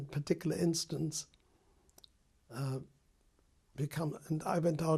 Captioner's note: pauses for 3 seconds